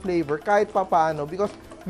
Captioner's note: sizzle